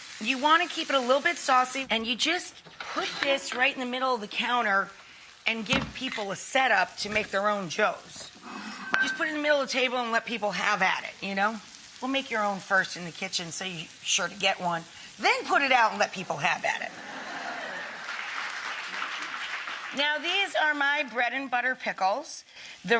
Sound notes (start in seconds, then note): 17.0 audience laughing and clapping